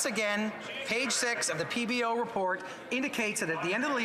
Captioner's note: some Applause